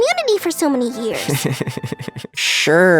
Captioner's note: snickering